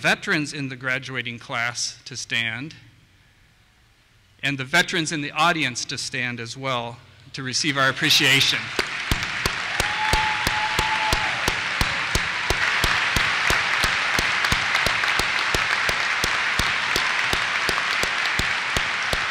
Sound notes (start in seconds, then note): 8.6 cheers; 9.1 applause